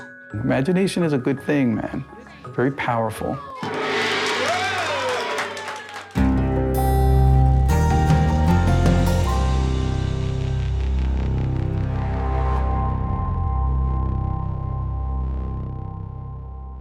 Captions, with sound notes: -Imagination is a good thing, man, very powerful. [ Gong crashes ] -Whoa! [ Applause ]